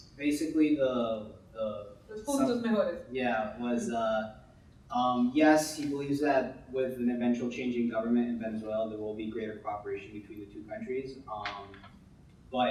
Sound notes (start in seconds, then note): 2.4 speaking in Spanish